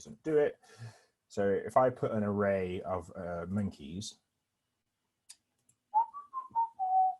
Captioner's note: whistles